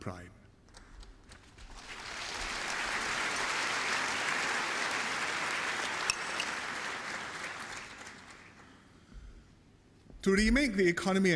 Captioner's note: applause